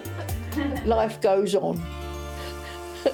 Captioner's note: laughs